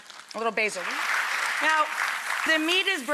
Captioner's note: audience claps